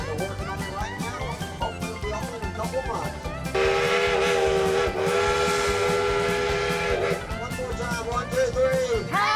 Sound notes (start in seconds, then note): 3.5 train whistle blowing